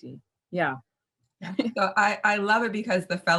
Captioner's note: laughs